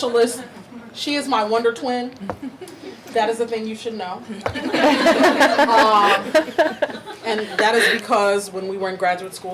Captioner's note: audience laughing